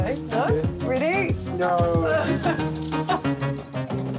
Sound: laughs

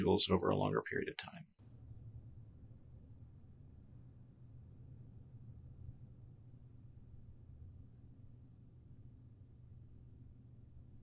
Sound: silence

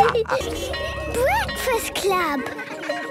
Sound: bell ringing; children giggling

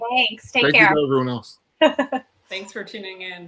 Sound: laughs

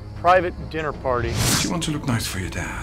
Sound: air whooshing

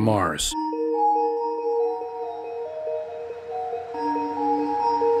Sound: tinkling bells

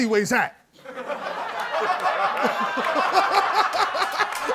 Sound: laughter

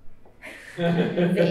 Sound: laughter

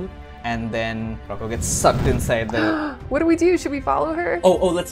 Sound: gasp

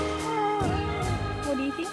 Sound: makes baby noises

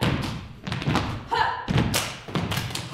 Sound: stomping, clapping

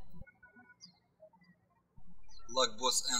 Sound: birds chirping

